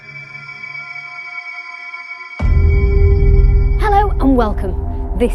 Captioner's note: eerie whistling